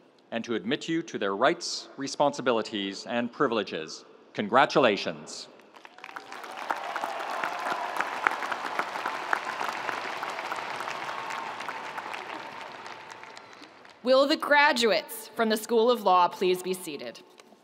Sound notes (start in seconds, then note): 5.7 audience applauding; 5.8 audience cheering